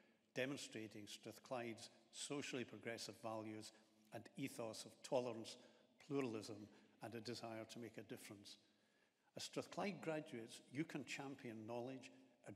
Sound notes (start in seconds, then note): none